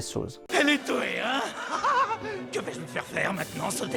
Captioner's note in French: rire de fou